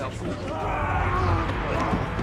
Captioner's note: yelling